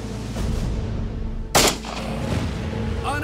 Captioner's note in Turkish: si̇lah sesi̇